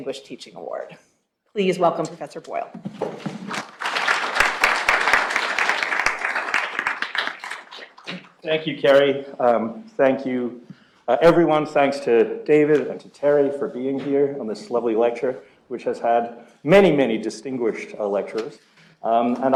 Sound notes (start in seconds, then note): 3.4 applause